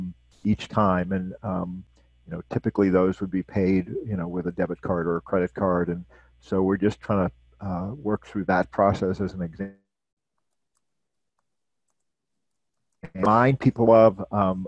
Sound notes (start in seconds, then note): 13.0 audio disruption